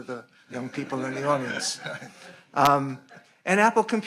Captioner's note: audience laughing